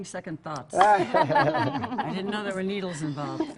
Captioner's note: all laugh